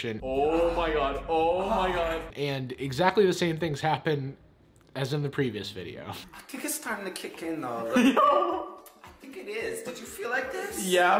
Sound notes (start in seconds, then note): 7.6 excited